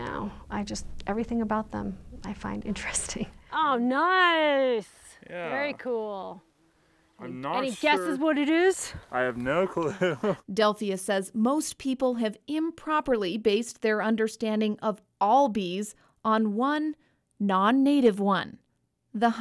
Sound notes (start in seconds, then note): 9.2 laughing